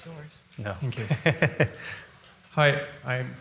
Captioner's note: laughs